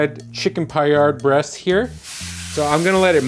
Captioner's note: breast sizzling